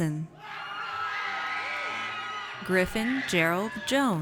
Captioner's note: audience cheers